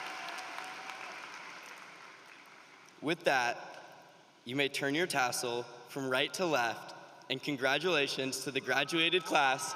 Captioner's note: applause